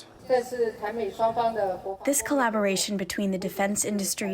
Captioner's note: through translator